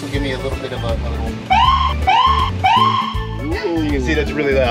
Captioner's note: siren blares